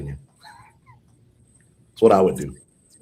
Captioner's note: laughs